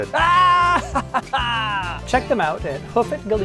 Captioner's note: laughs